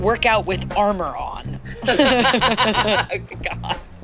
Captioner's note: all laugh